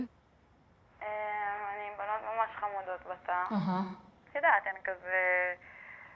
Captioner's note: speaking foreign language